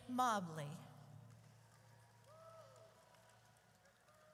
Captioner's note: audience cheers